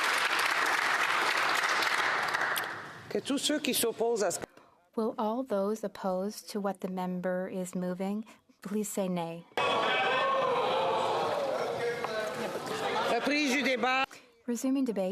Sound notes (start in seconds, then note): 1.9 applause